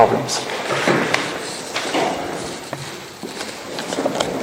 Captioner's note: pages turning